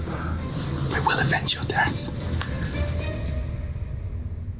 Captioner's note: whispers